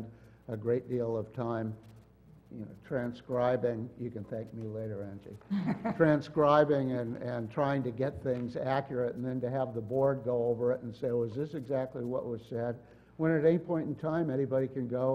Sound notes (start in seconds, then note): 5.5 laugh